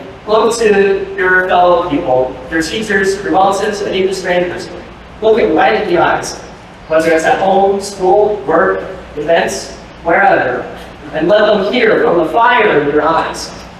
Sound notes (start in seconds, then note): none